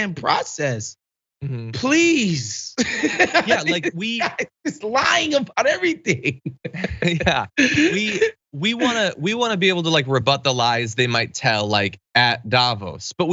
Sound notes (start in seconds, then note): 2.8 laugh; 6.2 laugh